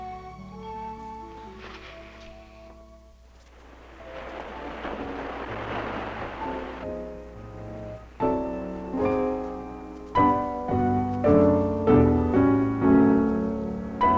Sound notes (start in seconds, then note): 3.6 waves crashing; 4.8 gentle piano music playing